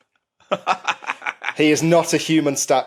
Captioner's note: cackles